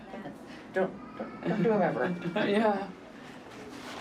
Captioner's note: laughs